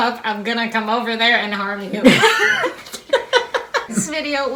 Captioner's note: laughing